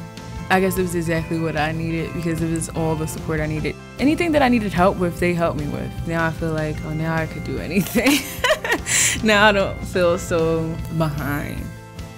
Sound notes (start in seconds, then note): 8.0 laughs